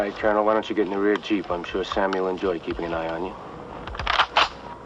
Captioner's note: gun clicks